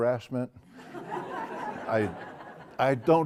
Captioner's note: laugh